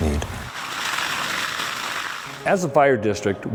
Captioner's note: fire crackling